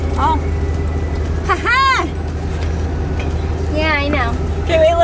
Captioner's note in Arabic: يضحك في انتصار